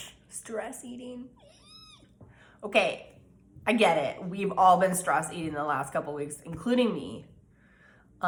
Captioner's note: eep!